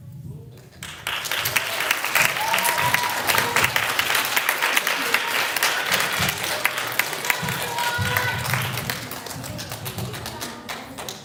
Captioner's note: applause